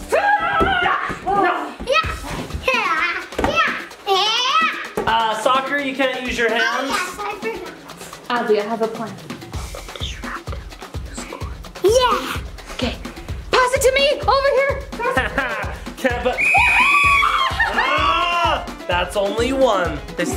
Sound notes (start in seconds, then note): 16.3 whistle ringing; 16.4 mom cheering